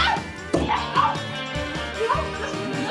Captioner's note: thud